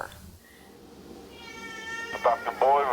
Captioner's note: cat mewing